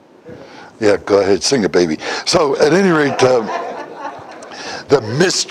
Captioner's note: Смех